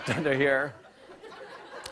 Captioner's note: laughter